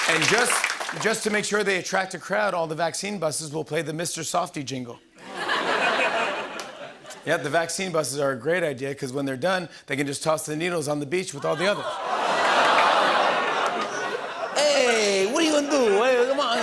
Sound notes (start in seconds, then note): 5.2 laughter; 11.4 audience oohs